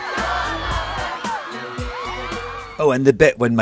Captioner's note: crowd cheering; upbeat music